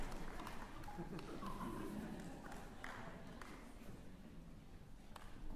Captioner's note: chuckles